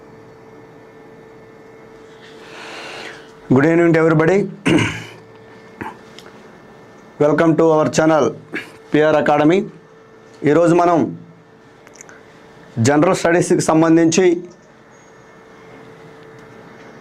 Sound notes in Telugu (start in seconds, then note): 4.5 దగ్గు; 4.6 గొంతు సవరించుకోవడం